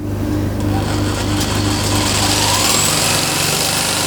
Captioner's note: whirring